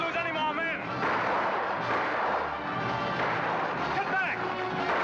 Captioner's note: dramatic music; guns firing